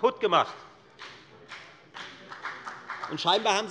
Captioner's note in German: Beifall bei der FDP